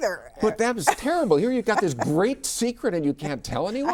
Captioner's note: laughs